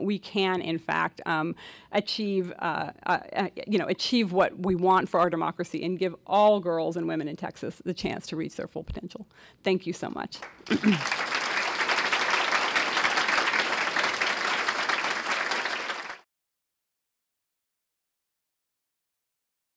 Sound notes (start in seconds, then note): 10.4 audience applauds